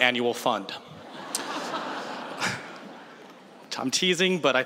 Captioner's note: laughter